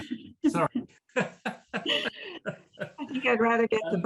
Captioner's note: laughs; chuckles